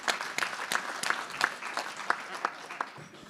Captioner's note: applause